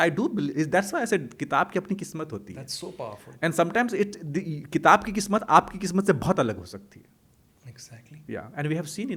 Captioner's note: hindi